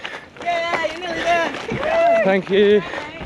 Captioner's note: crowd cheering